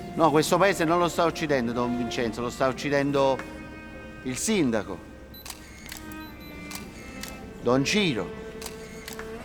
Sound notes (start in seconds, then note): 5.4 cameras clicking